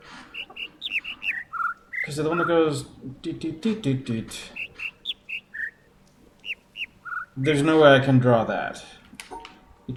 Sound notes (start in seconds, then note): 0.3 overlapping birds chirping, ˥ ˥ ˩ ˧ ˩; 3.6 imitates notes; 4.9 overlapping birds chirping, ˥ ˥ ˩ ˧ ˩